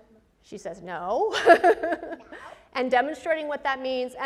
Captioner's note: presenter laughs